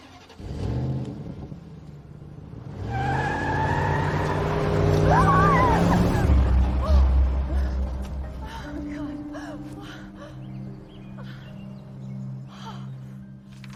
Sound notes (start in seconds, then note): 3.5 engine roars; 9.9 gasping